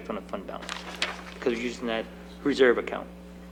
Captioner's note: page turning